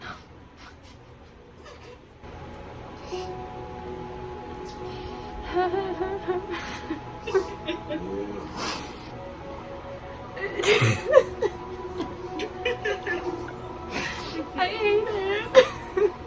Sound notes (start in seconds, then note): 5.4 more nervous laughter